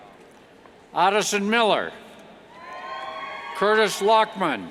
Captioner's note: cheers